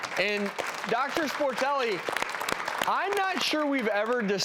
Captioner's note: claps